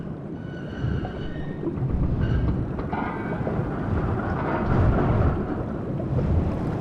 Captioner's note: metal Groaning